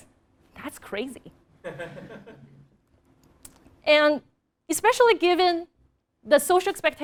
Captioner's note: laugh